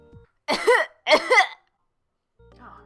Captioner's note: cough cough